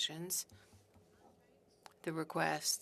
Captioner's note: speaking French